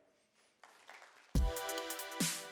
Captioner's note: applause